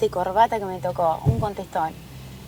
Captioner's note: closing Trunk